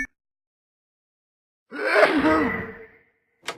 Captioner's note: achoooooo!; door opening wind blowing